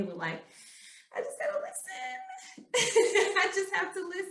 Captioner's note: chuckling